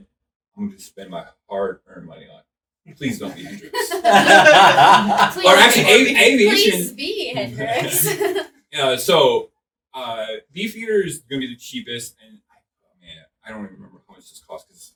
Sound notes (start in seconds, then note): 3.0 laughing